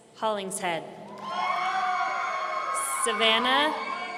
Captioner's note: audience cheering